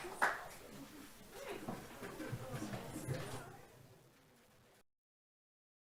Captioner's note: audience cheers and applauds; host chuckles; audience chattering